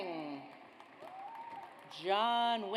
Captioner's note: audience applauds